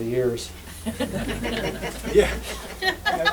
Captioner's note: laughter